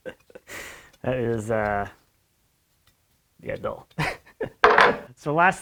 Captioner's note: chuckles